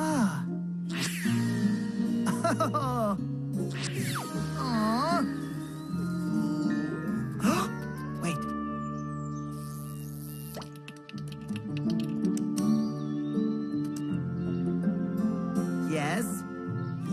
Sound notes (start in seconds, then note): 0.7 air whooshing; 2.2 Nature Cat chuckling; 6.1 gasping; 9.7 inspiring orchestral music; 10.3 acorn popping